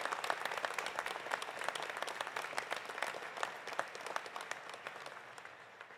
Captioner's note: applause continues